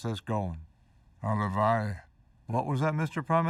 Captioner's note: speaking foreign language